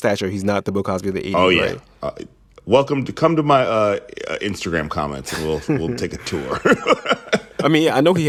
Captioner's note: laughter